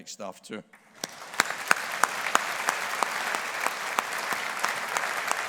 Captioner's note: audience applauding